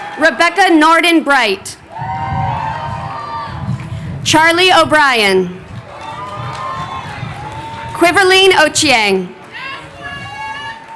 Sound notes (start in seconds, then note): 1.5 crowd cheering